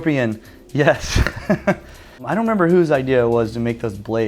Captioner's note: laughs